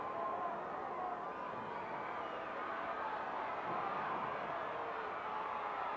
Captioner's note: audience cheering continues